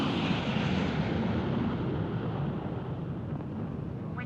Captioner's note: engine roaring